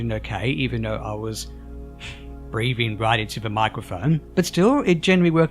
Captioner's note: sigh